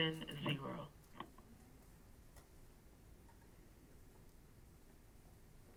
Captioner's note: silence